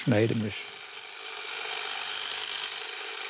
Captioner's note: machine humming